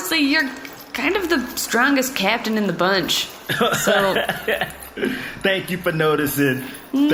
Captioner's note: laughing